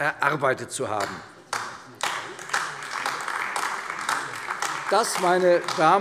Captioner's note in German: Beifall AfD